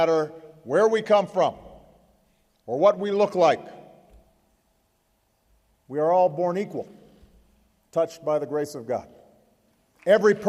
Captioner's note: applause